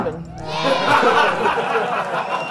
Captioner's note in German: Gelächter